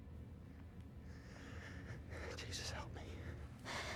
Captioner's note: whispers